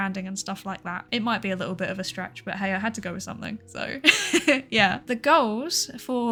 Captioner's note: laughs